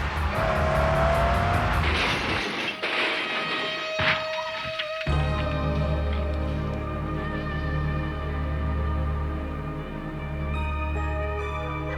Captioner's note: car crashing